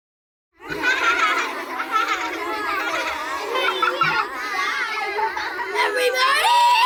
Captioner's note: laughter